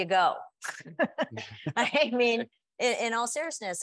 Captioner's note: panelists chuckling